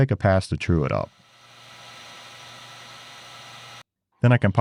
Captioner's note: machine whirring